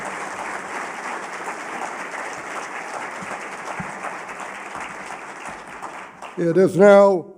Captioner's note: applause